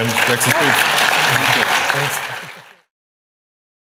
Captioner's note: crowd applause